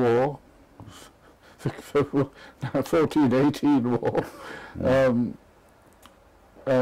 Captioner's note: laugh; laugh